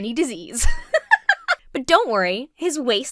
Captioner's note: giggles